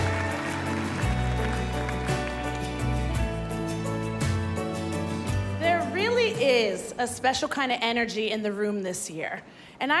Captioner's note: cheers and applause